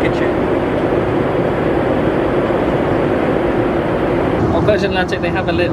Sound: engine rumbling continues

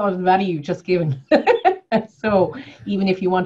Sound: laughing

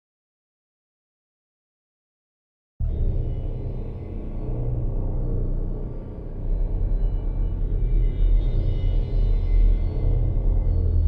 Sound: sound of dark ghost house

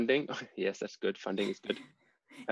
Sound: chuckles

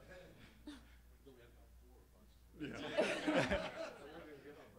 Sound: all laughing; man speaking faintly

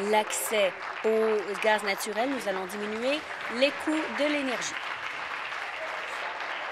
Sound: applause

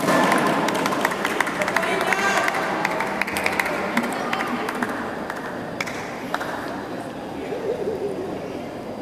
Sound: applause

